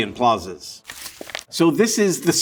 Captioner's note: paper rustling